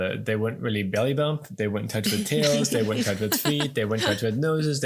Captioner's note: laughing